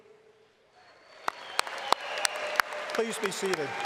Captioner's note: applause